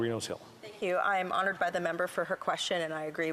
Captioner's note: speaking indigenous language